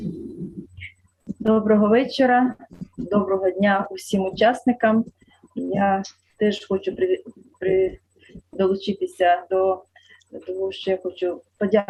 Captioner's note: foreign Language